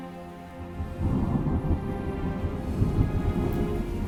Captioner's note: thunder rumbling